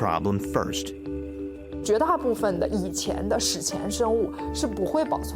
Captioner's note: speaking Chinese